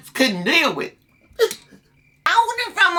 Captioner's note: sobs